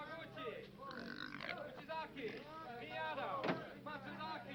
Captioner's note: pig squeals